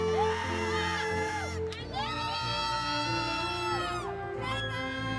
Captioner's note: audience members exclaiming